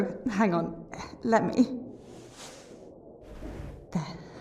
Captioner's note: fabric rustling